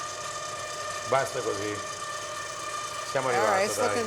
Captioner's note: speaking foreign language